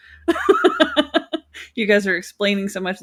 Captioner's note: laughing